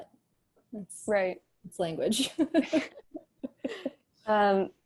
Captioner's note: laughter